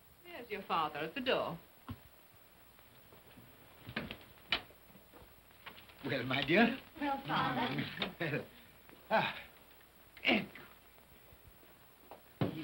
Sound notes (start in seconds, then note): 3.7 door opens; 9.1 Cratchit grunts